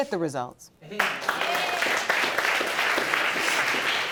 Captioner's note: audience applauding